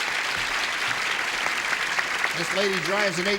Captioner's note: applause